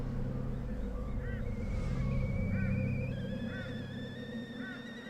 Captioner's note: kettle whistles